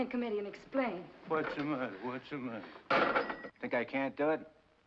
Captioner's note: phone slams down